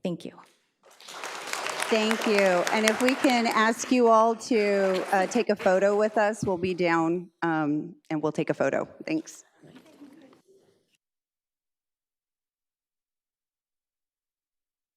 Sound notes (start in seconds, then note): 0.8 audience applauds